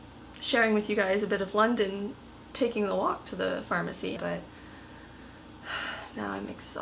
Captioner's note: sigh